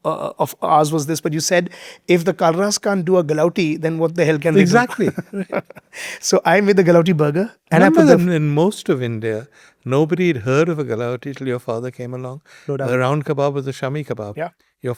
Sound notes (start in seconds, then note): 4.5 laughs